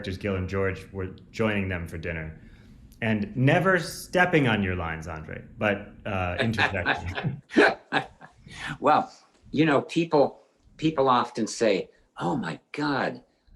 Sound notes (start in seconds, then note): 6.3 Andre laughs